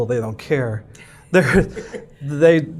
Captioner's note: laughing